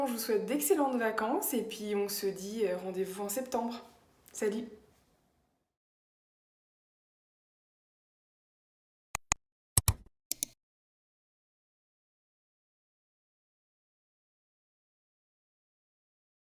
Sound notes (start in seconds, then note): 8.8 3 different clicks